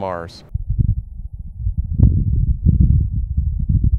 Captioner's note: wind blowing